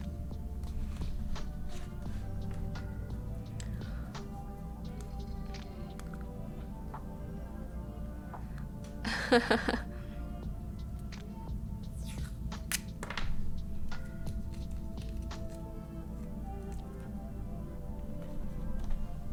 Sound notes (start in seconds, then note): 9.0 laughing